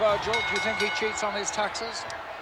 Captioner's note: bell rings